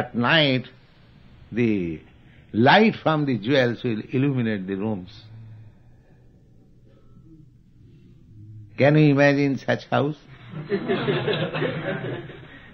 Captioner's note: laughter